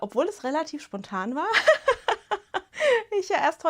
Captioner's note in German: Gelächter